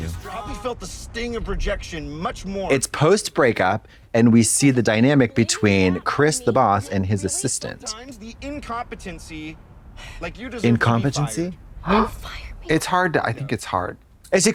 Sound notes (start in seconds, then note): 11.9 Trixie gasps